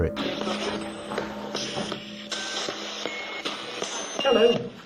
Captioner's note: ghost box buzzing